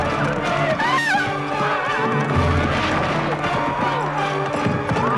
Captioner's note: villager screaming